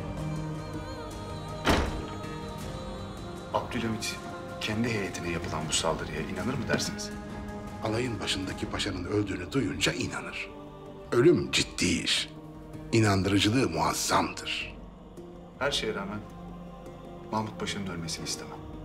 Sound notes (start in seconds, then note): 1.6 the door closing sound